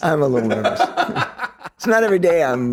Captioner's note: loud laughter